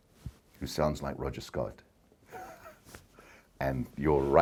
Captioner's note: laughs